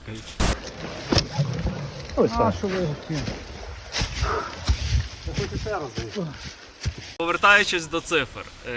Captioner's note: man struggling